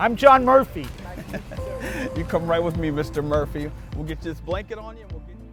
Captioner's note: chuckles